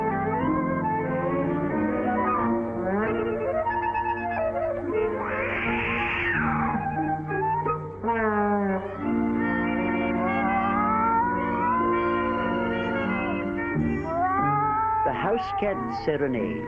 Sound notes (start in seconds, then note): 5.0 meow; 8.3 howling